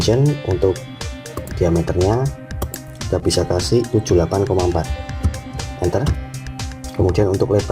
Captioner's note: click